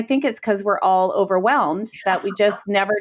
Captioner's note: laughs